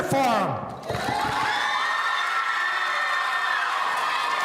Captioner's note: audience cheering